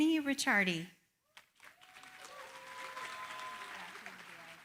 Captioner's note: applause